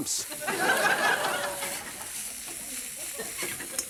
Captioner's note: laughter